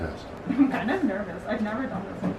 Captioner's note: chuckling